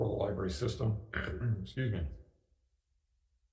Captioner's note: clears throat